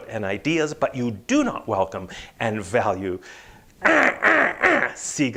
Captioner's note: squawking